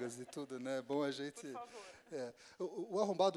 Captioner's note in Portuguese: risos